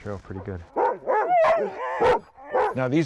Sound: dogs barking

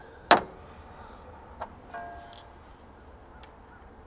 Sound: metal clunks

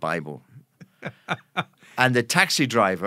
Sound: laughing

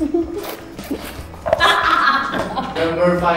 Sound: laughs

